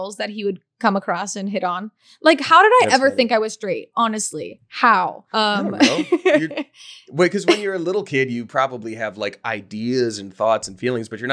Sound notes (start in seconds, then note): 5.5 laughing